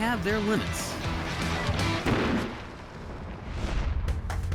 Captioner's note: loud pop